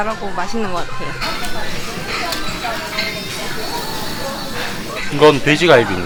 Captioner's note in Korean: 지글 지글